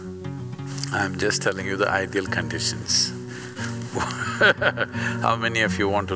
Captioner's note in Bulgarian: смях